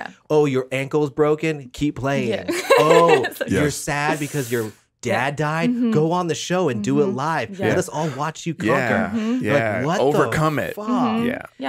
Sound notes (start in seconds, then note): 2.4 laughs